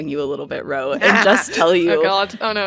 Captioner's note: laughter